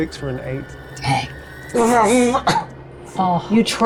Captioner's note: imitates electricity